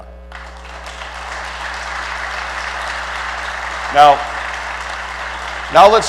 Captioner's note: applause